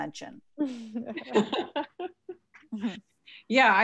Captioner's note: laughs